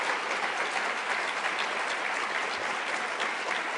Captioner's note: applause